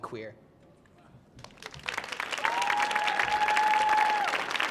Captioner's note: audience cheering